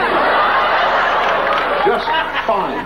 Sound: audience laughing

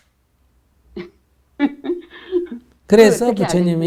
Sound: questioner Laughter

